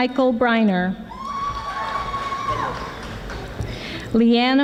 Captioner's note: audience applauding